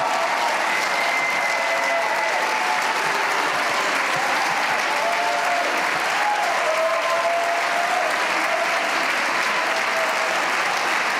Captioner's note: cheers and applause